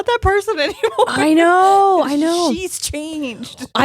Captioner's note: laughing